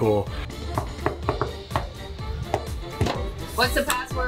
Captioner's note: knocking